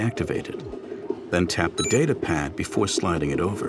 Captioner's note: beeping